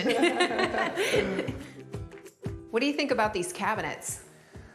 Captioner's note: both laugh